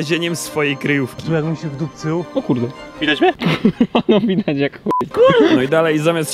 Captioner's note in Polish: śmiech